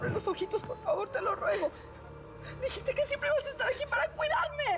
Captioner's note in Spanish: sollozos